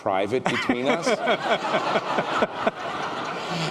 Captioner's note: laughter